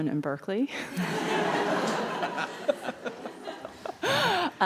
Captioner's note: audience laughs